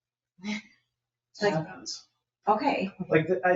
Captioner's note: chuckles